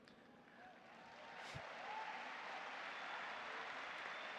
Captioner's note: audience applauding